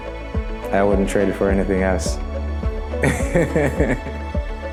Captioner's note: laughs; upbeat music